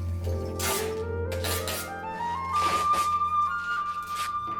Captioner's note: tape tearing